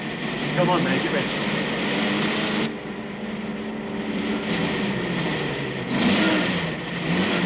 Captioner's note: motors revving